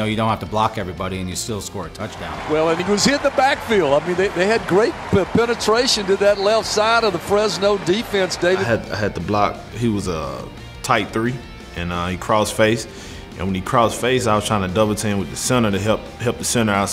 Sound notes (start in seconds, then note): 2.6 voiceover